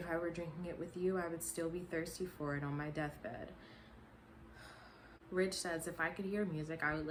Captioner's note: sigh